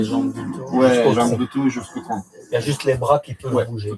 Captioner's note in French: rires